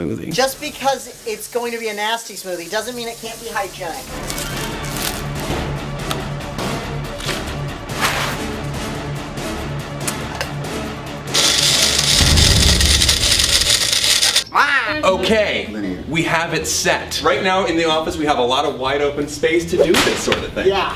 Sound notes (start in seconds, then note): 11.3 blender noises; 14.5 makes "evil" noise; 19.9 slaps his leg